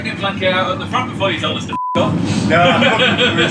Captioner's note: beep